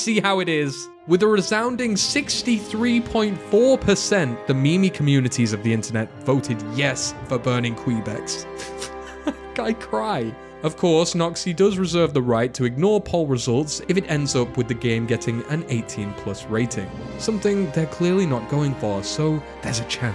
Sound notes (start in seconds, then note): 8.5 sobs